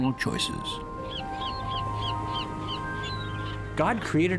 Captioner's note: seagulls squawking